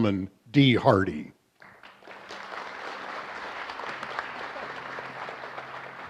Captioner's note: applause